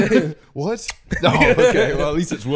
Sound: smooch

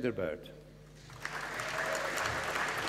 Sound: applause

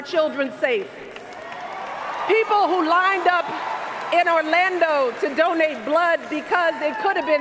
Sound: cheers, applause

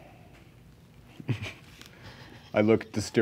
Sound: laughing

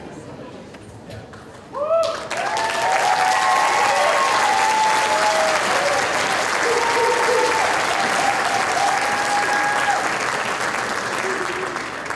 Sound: applause

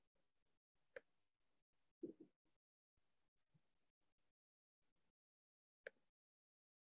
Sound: silence

